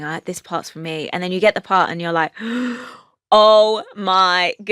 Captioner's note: gasps